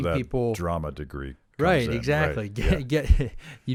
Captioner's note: laughs